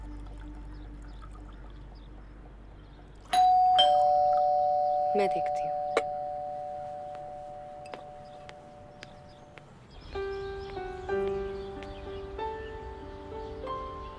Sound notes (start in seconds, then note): 3.3 Doorbell ringing; 6.9 Footsteps